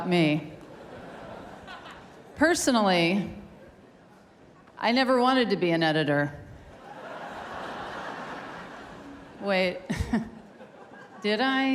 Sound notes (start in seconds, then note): 0.6 laughter; 6.7 laughter; 11.4 laughter